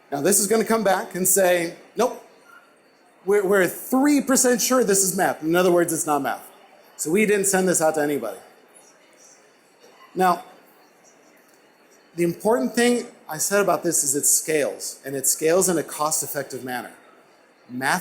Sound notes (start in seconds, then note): none